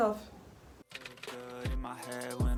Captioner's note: typewriter sound